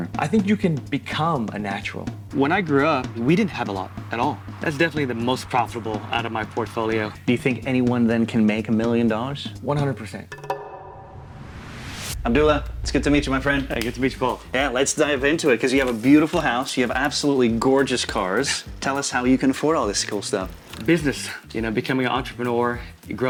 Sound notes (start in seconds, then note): 10.2 drums clattering; 10.9 air whooshing